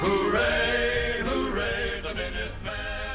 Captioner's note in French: chant